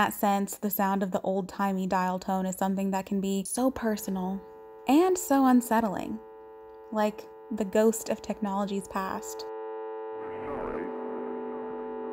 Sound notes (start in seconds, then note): 7.6 low dial tone begins in the background; 10.3 garbled digitized speech and faint music playing